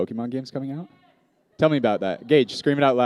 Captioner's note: shouts